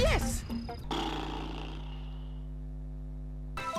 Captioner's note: sigh